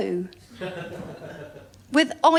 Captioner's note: laughter